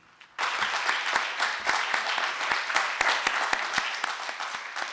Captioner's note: audience applauding